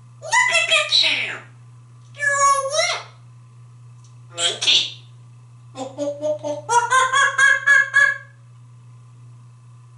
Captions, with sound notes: Look at you! You´re all wet! Monkey. [Monkey sound]